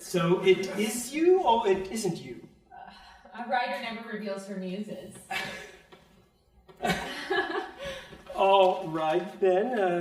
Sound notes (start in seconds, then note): 6.8 both laughing